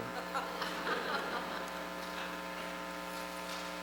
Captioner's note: laughter